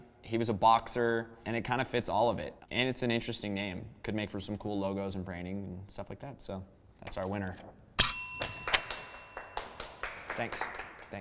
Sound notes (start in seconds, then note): 8.0 ding